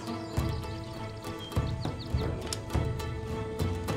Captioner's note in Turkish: Kuş cıvıltısı sesleri